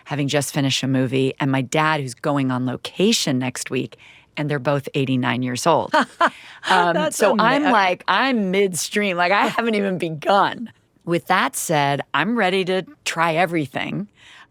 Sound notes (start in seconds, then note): 6.6 laughs